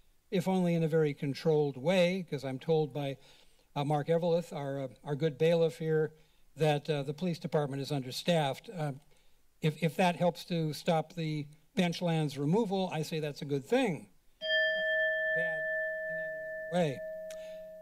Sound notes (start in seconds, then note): 14.4 alarm sound